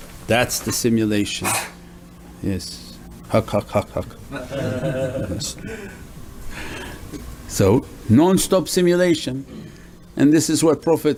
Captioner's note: someone sneezes